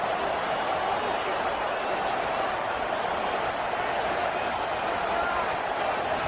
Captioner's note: crowd Noises